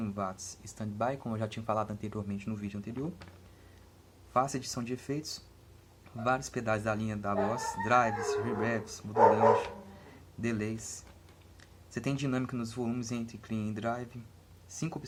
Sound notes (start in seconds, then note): 7.3 barking dogs